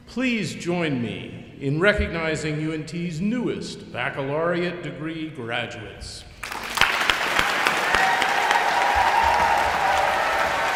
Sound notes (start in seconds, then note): 6.4 audience applauding